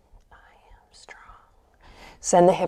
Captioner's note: whispers